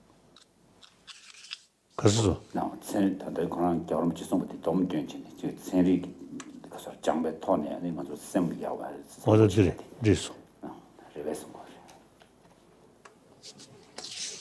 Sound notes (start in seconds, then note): 1.8 speaking foreign language